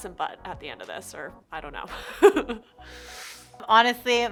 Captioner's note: laughter